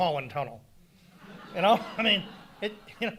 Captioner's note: audience laughing